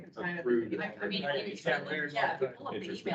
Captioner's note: indistinct chatter